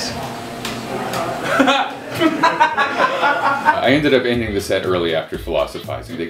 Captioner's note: laughter